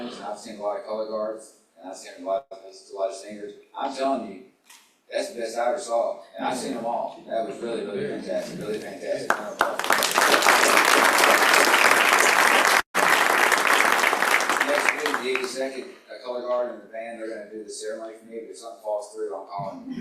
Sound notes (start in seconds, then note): 9.2 applause